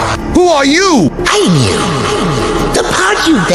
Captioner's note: barely a whisper